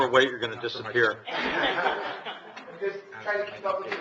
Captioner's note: audience laughing